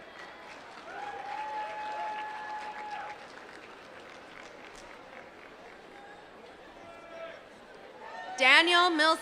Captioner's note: applause